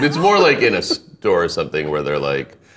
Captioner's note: laughing